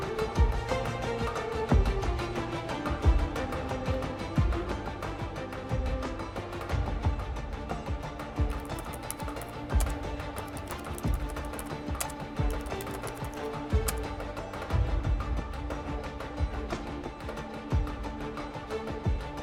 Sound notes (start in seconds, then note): 0.0 lively orchestral music continues; 8.4 keyboard clacking; 14.9 lively orchestral music continues